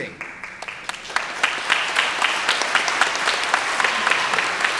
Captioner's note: everyone applauding